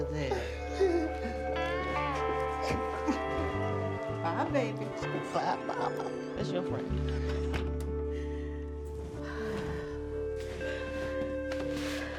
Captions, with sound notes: (Eric laughs nervously) - Bye, baby. - Bye, Mama. That's your friend. (laughs) (Beverly sighs)